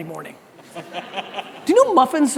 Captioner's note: audience laughter